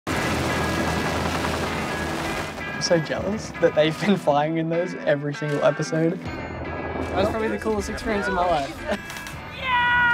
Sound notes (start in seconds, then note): 0.1 helicopter blades whirring